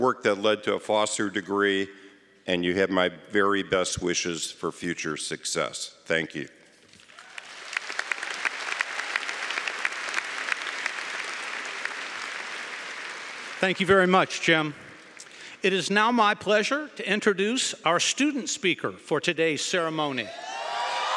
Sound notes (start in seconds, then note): 7.0 applause; 20.2 cheering & Applause